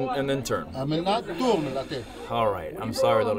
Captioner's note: offscreen person speaking in a foreign language